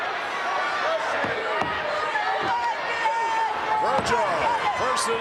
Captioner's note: crowd clamoring